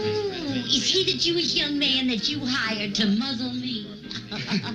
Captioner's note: laughing